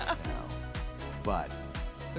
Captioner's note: laughing